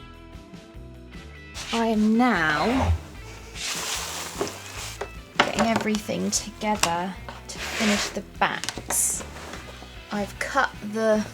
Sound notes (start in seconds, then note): 1.5 rustling of things on the desk